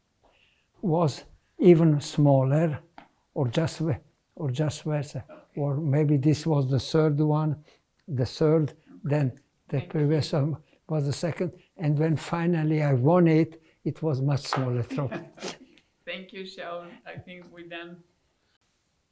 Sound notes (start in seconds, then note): 14.7 laughing; 16.8 pauses 10 seconds